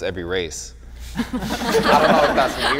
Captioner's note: group laughter